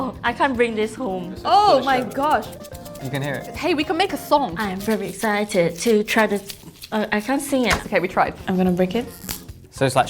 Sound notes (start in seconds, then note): 2.3 wafer makes shaking sound; 7.6 wafer makes snapping sound